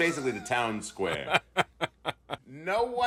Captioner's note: laughs